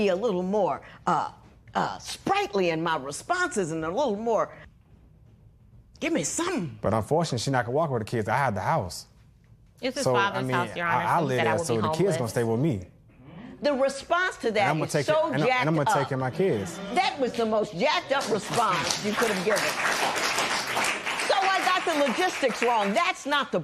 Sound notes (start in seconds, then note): 18.2 applause